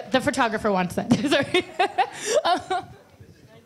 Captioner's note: laughs